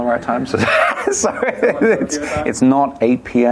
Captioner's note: laughter